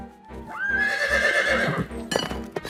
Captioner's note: horse whinnies